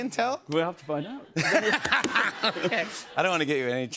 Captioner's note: laughter